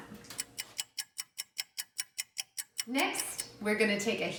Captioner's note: oven clock ticking